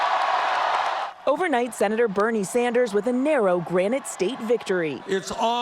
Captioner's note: cheers and applause